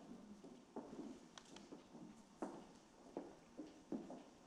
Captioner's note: heels clicking